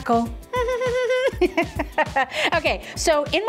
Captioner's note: laughing